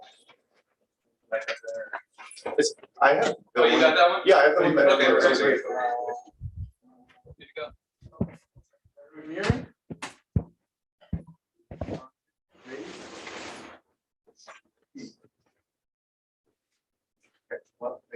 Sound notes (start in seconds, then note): 1.3 indistinct conversation